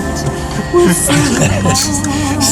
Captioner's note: laughs